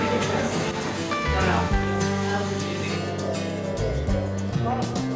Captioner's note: people chattering